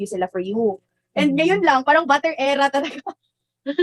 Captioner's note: chuckles